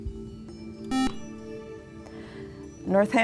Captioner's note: beeping